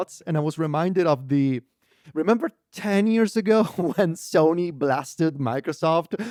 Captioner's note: laughs